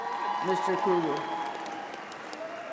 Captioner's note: applause